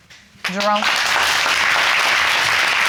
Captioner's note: audience applauding